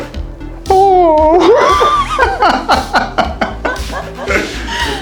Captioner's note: laugh